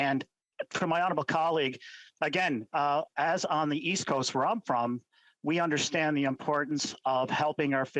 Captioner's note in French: voix de l'interprète